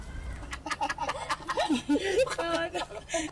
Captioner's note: laughing